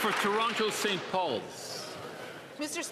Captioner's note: applause